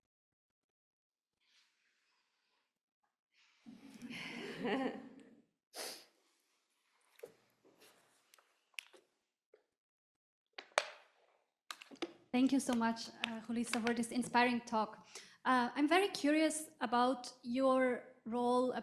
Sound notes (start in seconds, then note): 3.7 people chuckling; 11.7 bottle cracking